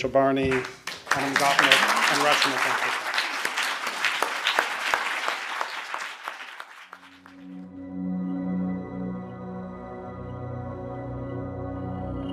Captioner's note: applause